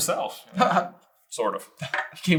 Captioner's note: chuckles